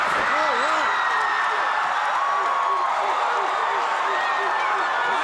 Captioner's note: crowd cheering